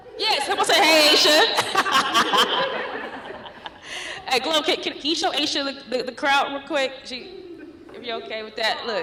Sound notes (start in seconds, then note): 0.4 laughs